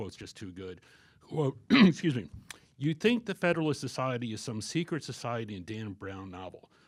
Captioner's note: clears throat